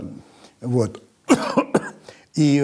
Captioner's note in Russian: Познер кашляет